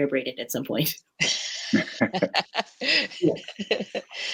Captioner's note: laughter